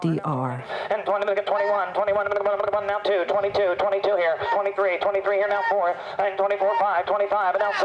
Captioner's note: auctioneer chant